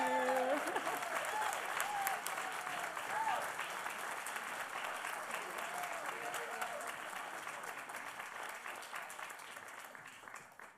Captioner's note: applause